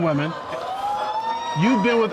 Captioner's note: audience exclaiming